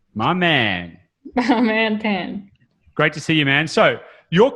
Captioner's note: laughs